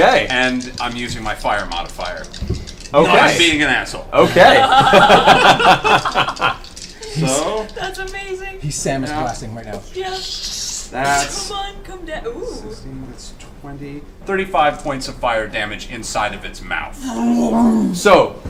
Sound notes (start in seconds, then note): 4.4 all laugh